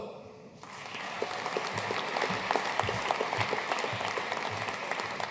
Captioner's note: audience applauding